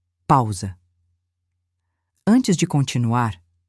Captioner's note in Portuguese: pausa